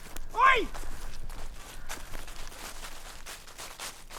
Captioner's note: footsteps running